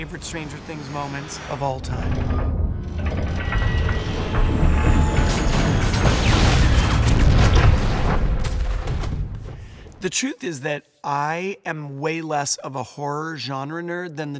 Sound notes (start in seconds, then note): 3.0 chopper clanks; 5.9 chopper whooshes